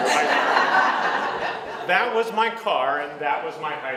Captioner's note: audience laughs